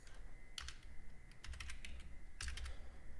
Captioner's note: typing